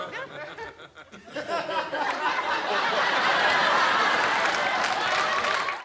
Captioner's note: audience laughter